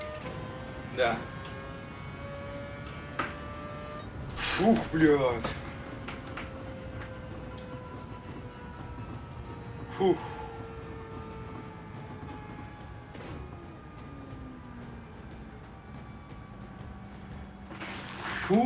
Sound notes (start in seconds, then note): 4.3 emotional outburst